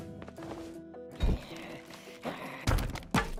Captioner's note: zombies groaning